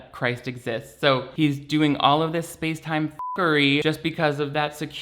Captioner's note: beeps